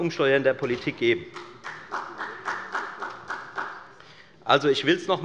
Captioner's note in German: Beifall der Abg